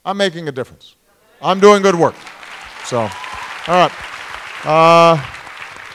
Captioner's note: applause